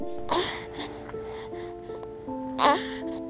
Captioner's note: baby cooing; gentle music